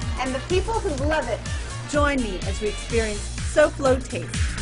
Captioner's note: none